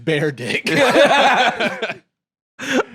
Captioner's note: both laugh